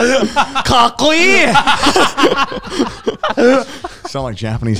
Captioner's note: speaks in Japanese